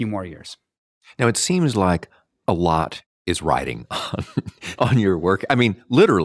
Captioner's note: laughs